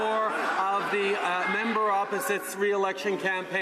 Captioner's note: some Applause